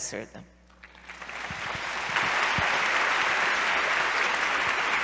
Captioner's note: applause